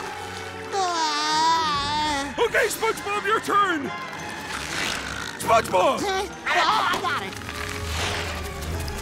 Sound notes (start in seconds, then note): 4.2 snoring